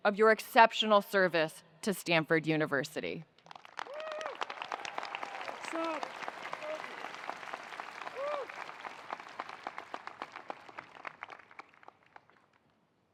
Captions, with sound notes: of your exceptional service to Stanford University. (attendees cheering) (attendees applauding)